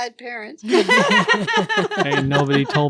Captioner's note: laughing